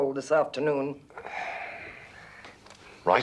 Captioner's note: sighs